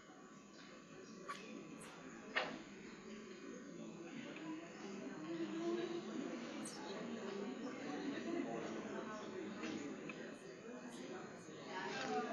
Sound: chatter

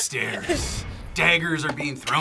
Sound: laughs

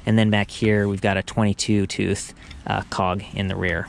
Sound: none

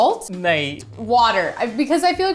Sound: speaking in Hindi

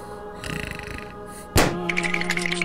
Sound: snoring; balloon pop; shivering

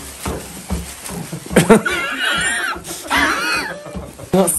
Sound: wheezing Laugh? Or Out Of Breath?

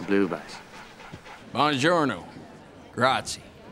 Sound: in Italian

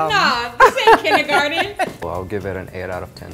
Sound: laughing

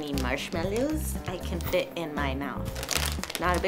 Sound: package crinkles

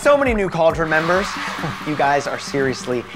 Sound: cheers and applause

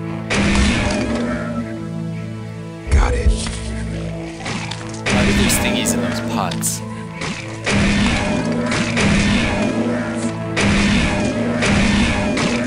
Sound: pot breaking; gunshots

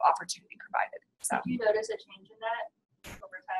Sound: voiceover

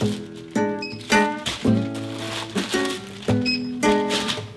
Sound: rustling; more rustling

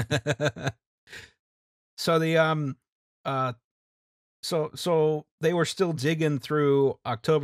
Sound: laughter

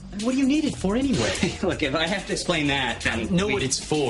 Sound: joel laughs

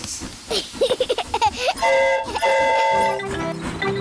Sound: giggles; train horn toots

